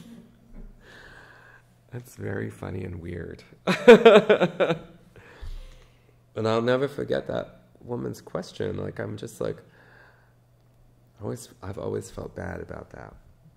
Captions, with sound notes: That's very funny and weird (laughs). And I'll never forget that woman's question, I'm just like, I've always felt bad about that.